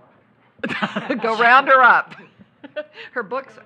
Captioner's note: laughing